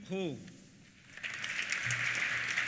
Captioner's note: applause